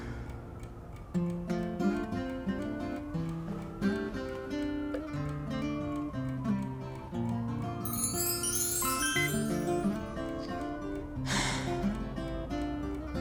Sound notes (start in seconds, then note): 7.8 chimes; 10.2 sighs